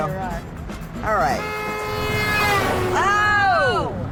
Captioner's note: honking